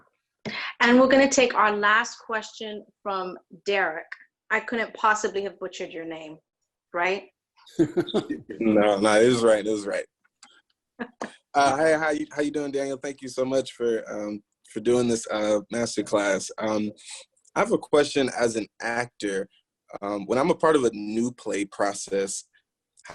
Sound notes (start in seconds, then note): 7.8 laughing; 11.0 laughing